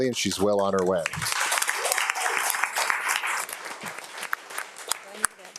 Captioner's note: audience applauding